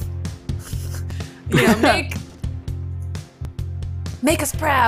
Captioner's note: laughs